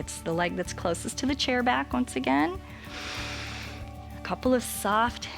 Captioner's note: inhales